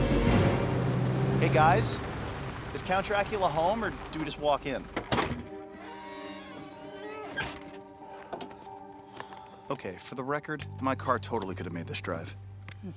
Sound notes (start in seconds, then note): 5.0 door squeaks